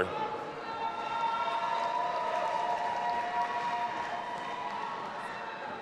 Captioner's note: audience applauding and cheering